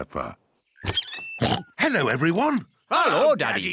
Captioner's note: oinks